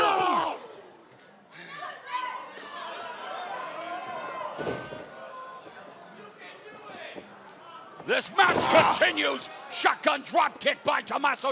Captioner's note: crowd chatter